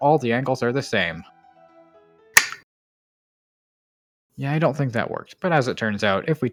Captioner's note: disappointing click